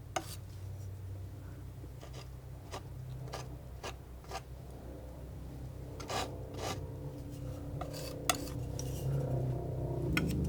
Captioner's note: scratching